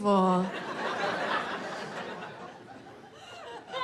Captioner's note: audience laughing